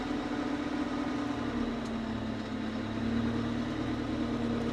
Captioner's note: machinery rumbles